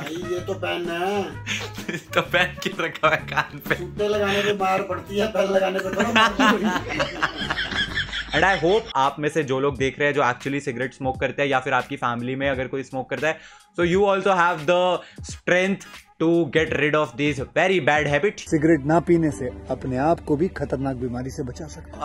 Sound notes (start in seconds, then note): 5.9 laughing hysterically